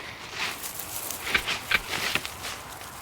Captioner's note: loud rustling in the leaves